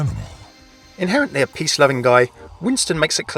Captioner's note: voiceover